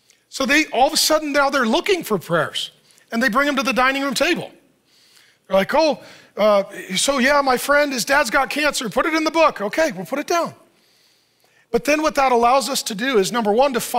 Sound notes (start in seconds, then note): none